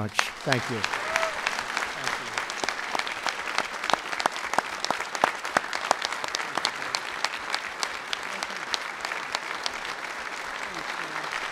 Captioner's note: applause